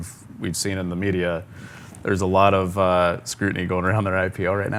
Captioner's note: none